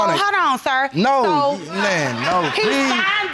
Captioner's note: audience laughing